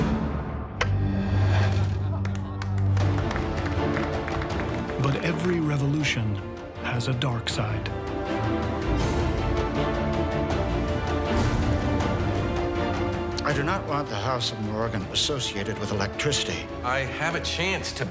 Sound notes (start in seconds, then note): 2.2 applause; 7.8 suspenseful music